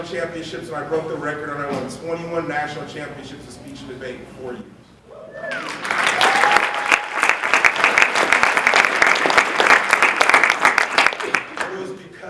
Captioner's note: applause